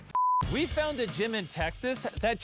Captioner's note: screen beeping